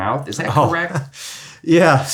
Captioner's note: laughs